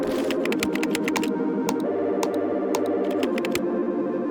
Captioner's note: keys clacking